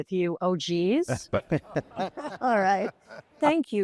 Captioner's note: laughing